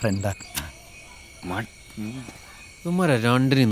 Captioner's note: murmuring